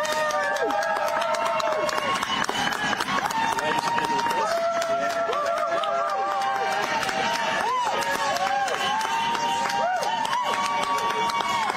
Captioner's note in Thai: ปรบมือ